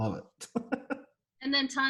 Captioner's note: laughs